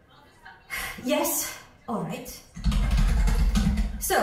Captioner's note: tapping on laptop keyboard